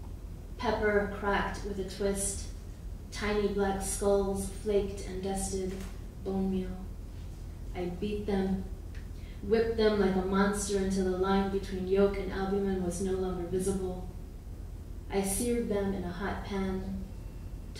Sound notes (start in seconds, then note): none